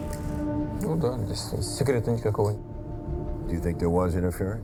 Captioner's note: speaking foreign language